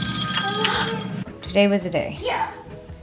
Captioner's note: phone rings